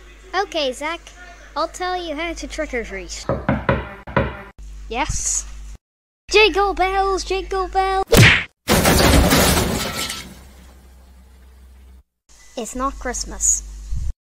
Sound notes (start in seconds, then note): 3.3 knocking; 8.6 crash